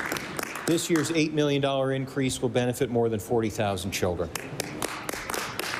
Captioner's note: applause